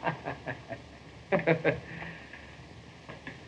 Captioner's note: hammer laughing; bob snickers